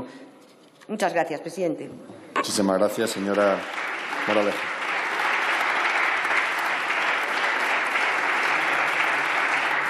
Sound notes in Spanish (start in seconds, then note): 3.1 Aplausos